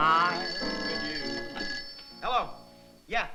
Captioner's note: phone rings